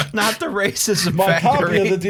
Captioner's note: laughter